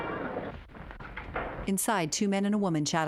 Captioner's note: fanfare continues; footsteps marching